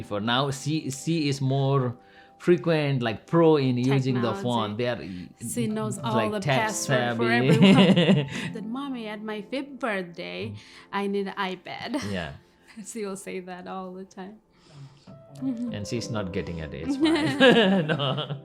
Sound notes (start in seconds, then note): 7.4 laughs; 17.1 laugh